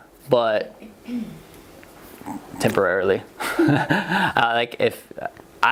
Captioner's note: laughs